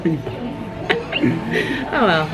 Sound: both laugh

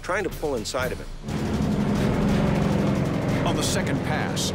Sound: engine rumbling

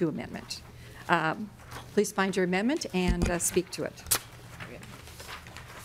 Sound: gavel

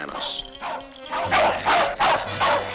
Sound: barking

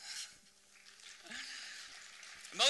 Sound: applause

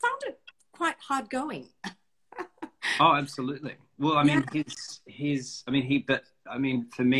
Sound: laughs

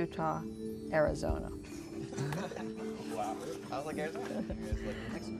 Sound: laughter

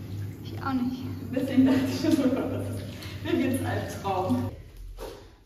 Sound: laughs

